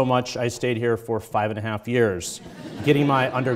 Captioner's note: audience chuckles